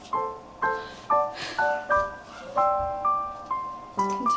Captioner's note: deep sigh